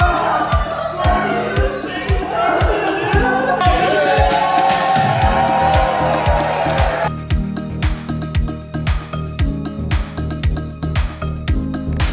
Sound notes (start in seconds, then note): 4.7 all cheering